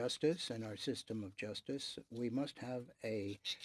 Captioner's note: speaking French